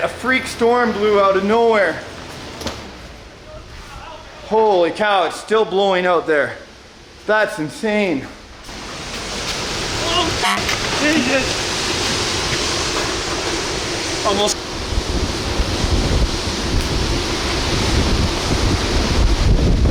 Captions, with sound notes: A freak storm blew out of nowhere. Holy cow it's still blowing out there. That's insane. - Oh (beep)! (wind blowing)